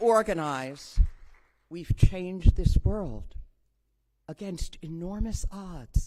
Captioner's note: applause